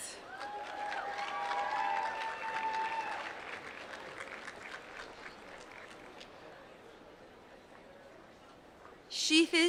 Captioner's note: applause